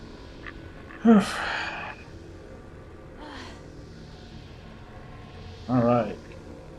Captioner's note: sighing